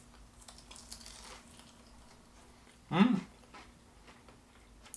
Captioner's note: food crackles